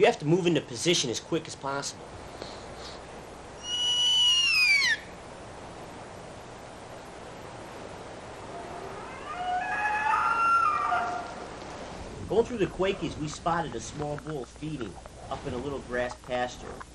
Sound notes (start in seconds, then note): 3.5 bugling; 8.3 elk calling